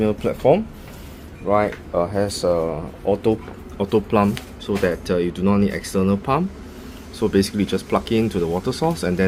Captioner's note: auto pump